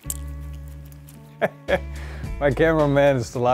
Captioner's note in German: laughs